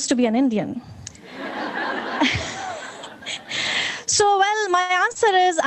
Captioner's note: audience laughing